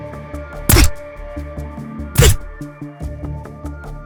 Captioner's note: gun shoots